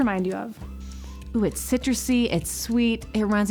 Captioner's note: inhales